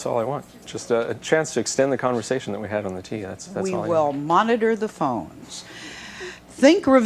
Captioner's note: none